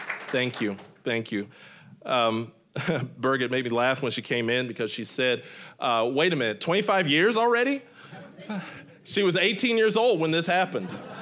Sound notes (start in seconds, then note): 2.8 chuckling